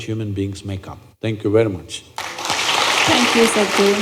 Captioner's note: applause